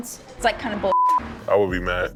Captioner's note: beep